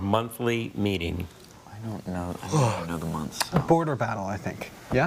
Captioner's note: yawning